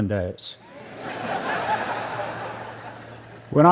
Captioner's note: laughter